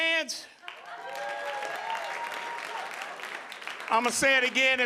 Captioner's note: audience applauding